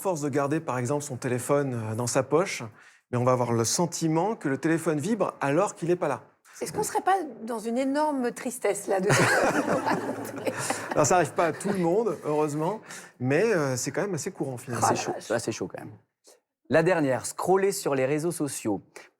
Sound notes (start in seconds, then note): 12.2 laughter